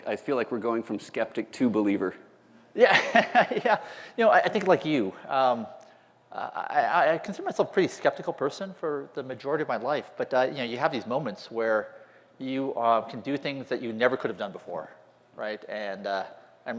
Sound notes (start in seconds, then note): 2.8 laugher